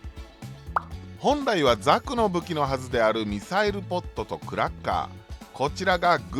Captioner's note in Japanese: クラッカー